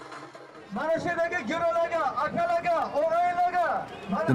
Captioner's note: man speaking Uzbek over a microphone